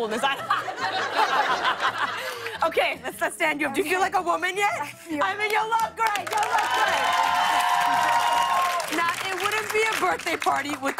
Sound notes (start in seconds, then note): 0.0 laughter; 5.8 cheers and applause